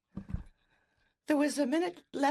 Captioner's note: speaking French